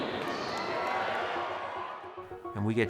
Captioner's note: audience cheering and clapping